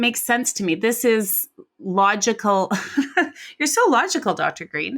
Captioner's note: laughs